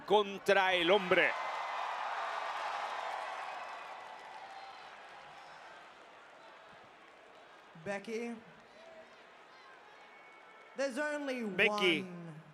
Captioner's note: applause